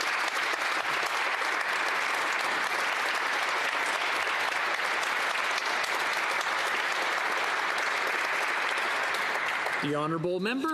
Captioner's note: applause